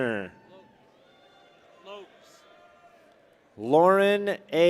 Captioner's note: people cheer